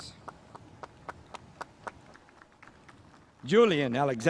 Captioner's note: spectators applauding